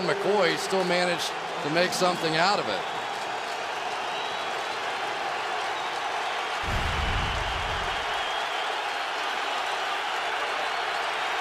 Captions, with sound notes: And LeSean McCoy still managed to make something out of it. [crowd cheering]